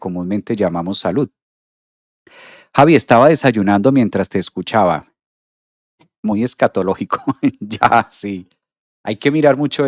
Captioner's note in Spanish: risas